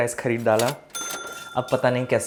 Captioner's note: cha-ching